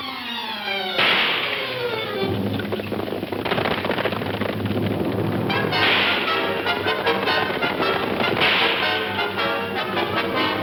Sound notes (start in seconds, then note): 2.6 horse hooves clomping; 5.5 suspenseful orchestral music; 5.5 guns firing